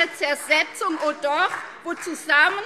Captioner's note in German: Vereinzelter Beifall CDU - Zurufe SPD